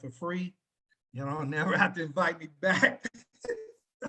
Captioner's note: laughing